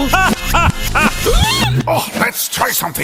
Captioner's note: squeaky toy